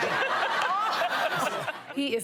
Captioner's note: laughing